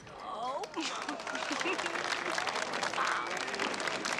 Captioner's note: Хихикает